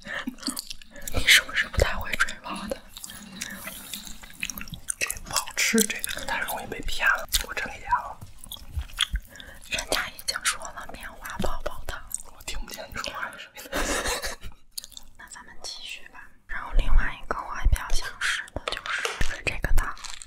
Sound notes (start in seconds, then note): 4.8 complaining; 13.6 laughing